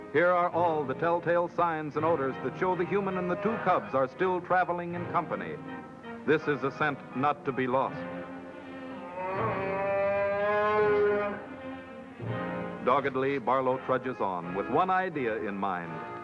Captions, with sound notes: Here are all the telltale signs and odors that show the human and the two cubs are still traveling in company. This is a scent not to be lost. [growling] Doggedly, Barlow trudges on with one idea in mind.